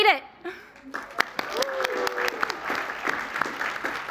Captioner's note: applause